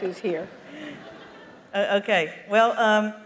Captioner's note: laughter